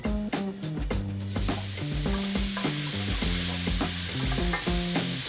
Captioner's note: microwave beeping; upbeat groovy music; leeks sizzling